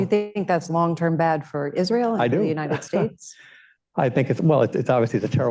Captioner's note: laughs